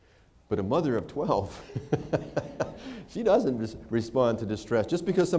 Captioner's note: laughter